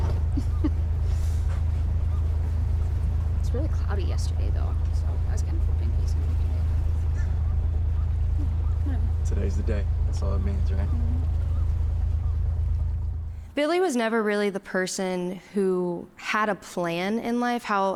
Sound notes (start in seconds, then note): 11.2 motor continues rumbling